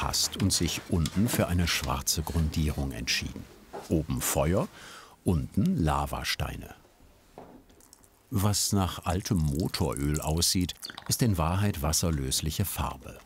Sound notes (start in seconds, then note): none